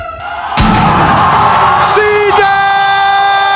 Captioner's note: crowd